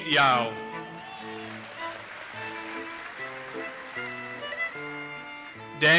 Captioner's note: audience cheers and applauses